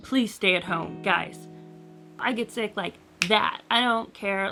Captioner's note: snaps